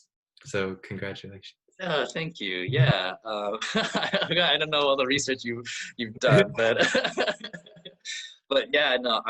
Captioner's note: laughs